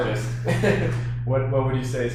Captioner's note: laughs